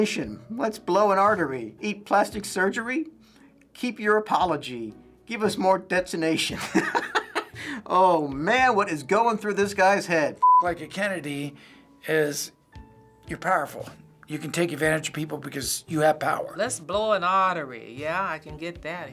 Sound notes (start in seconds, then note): 6.6 laughs